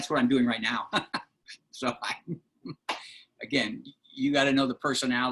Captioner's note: laughter